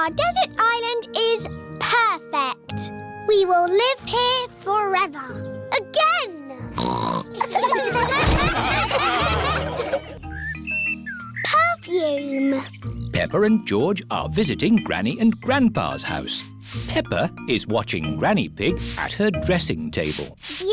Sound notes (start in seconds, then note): 6.8 snorts; 7.4 laughter